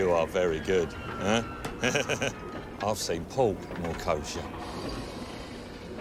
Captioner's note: laughs